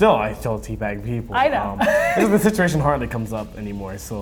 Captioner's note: laughing